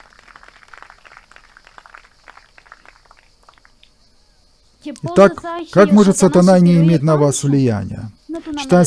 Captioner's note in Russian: Аплодисменты